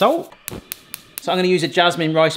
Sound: stovetop clicking

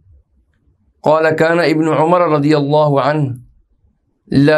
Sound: arabic

